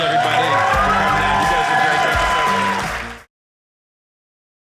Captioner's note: audience cheering